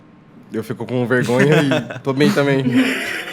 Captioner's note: laughs